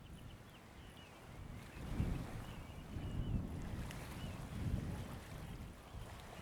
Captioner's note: waves lapping on shore